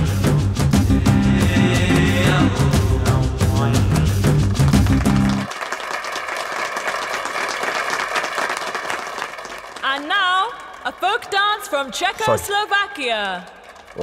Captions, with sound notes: [Applause] And now, a folk dance from Czechoslovakia.